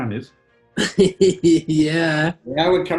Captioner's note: laughing